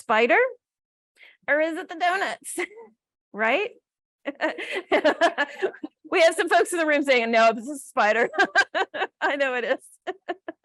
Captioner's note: laughs